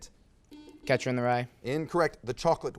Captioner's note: buzzer beeps